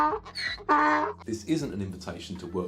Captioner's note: donkeys braying